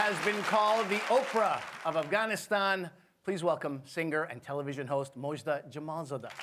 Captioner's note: applause